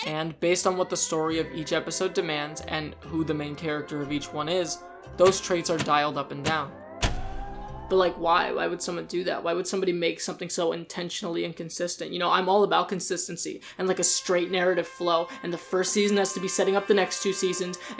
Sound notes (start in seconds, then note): 7.8 mockingly